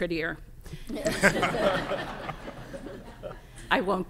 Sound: laughter

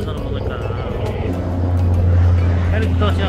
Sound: helicopter passing

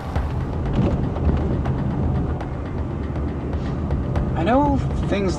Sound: tires thudding; rhythmic drumming music

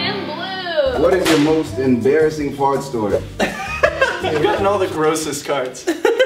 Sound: laughs

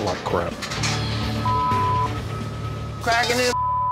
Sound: beeps

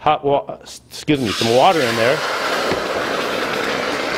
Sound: water boiling

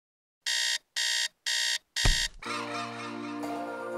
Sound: alarm ringing

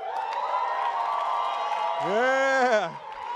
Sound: attendees applauding and cheering

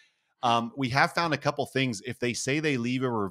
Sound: laugh

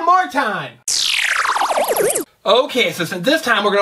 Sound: electronic trill

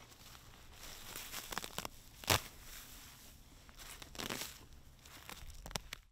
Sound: grass pulling

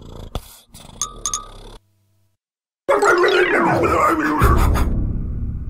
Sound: cat purrs; frustrated shouts and barks

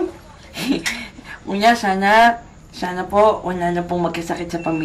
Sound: chuckles

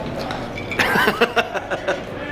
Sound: laughter

